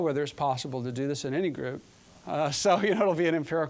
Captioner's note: chuckling